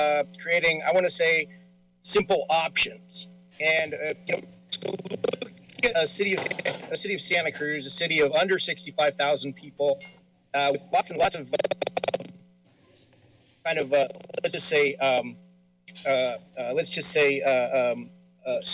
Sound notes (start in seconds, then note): 6.4 door closes